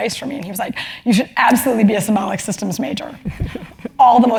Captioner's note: laugh